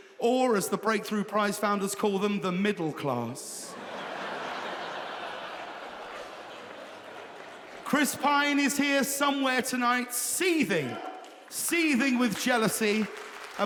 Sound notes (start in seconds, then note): 3.6 audience laughing